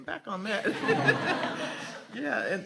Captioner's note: audience laughs